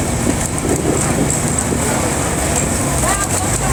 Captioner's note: the boat engine fades in